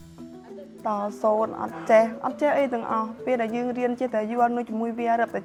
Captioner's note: speaking foreign language